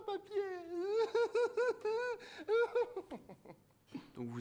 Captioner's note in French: sanglots, rire